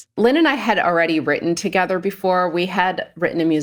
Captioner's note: none